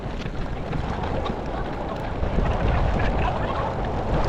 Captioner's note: wind blowing